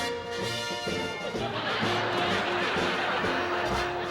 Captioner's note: orchestral music; laughter